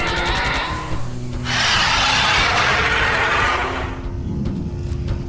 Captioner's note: angry roar